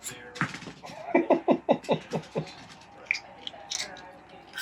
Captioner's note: laughs